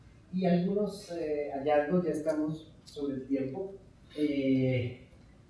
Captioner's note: speaking in Spanish